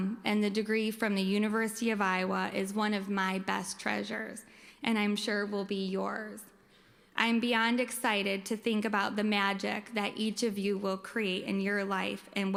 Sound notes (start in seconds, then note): none